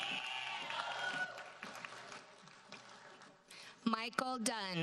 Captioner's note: audience cheers and applauds